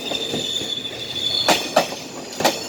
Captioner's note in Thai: รถไฟเบรค